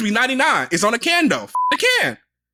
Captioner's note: beep